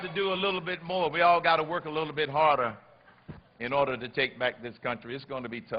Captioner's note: applause